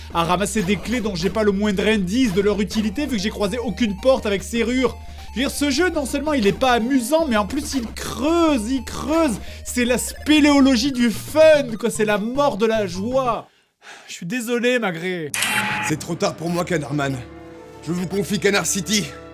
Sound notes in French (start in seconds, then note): 13.8 Sigh